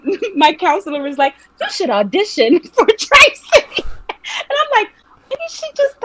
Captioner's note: laughing